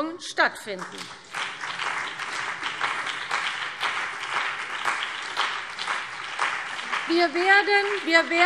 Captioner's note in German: Beifall CDU und BÜNDNIS 90/DIE GRÜNEN